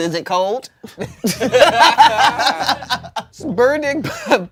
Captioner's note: everyone laughs